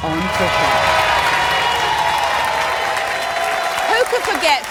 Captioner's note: audience cheering